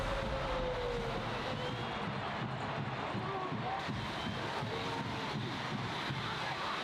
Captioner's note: drums pounding; crowd cheering